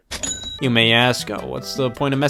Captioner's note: cashier dings